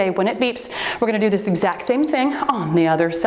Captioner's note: timer beeps